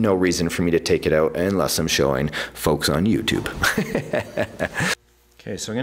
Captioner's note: laughs